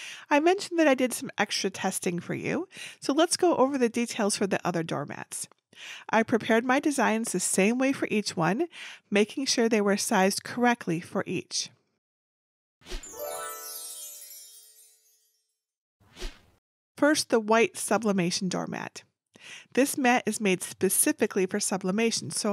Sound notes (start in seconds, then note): 13.0 stars shimmering